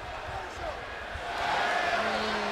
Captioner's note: crowd chatter